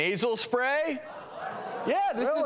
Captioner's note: crowd laughing